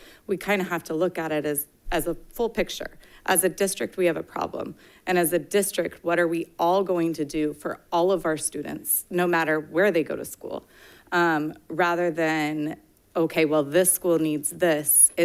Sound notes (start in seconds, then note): none